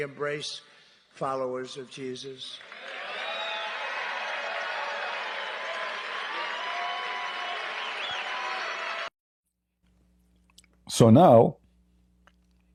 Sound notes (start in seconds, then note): 2.2 Tepuk tangan